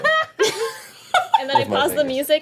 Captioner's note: laughing